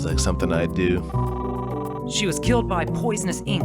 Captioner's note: phone ringing